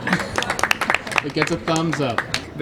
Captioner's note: group applauds